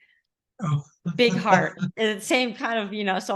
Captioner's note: laughing